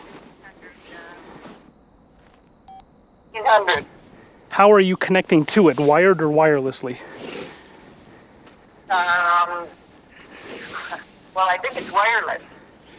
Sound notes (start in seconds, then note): 2.6 phone beep